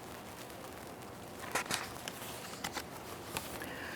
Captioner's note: paper rustling